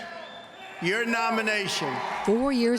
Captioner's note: cheering and applause